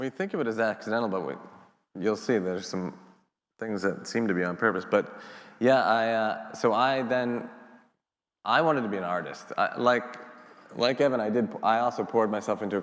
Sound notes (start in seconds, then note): none